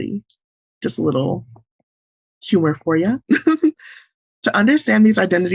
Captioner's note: laughs